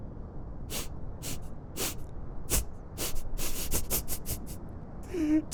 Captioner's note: sobbing